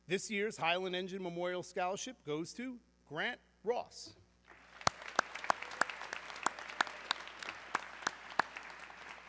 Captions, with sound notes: This year's Highland Engine Memorial scholarship goes to Grant Ross. (audience clapping)